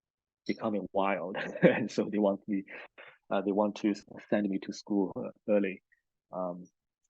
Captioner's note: laughs